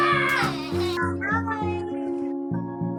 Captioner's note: child laughing